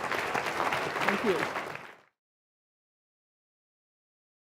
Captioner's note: audience applause